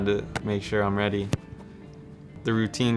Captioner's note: hand smacking; foot smacking